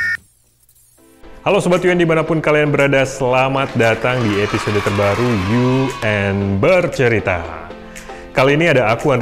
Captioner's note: hand clapping